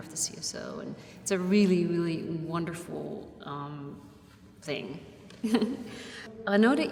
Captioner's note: chuckles